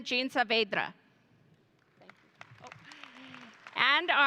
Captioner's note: audience applauding